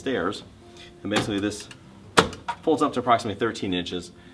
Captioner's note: footrests clunks